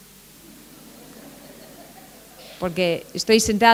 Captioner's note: laughter